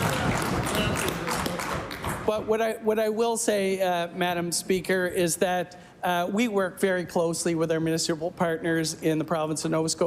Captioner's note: laughter and Applause